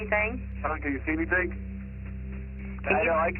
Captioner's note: on phone